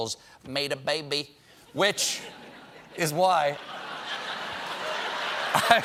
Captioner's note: laughter